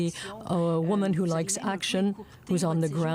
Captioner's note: speaking French